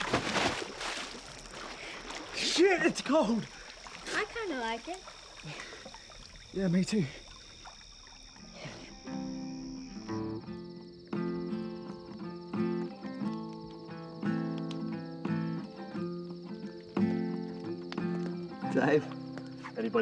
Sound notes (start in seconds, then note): 0.1 water splashing; 8.5 crickets chirping; 8.5 placid guitar music